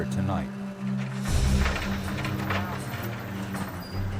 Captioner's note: Rattle of moving humvee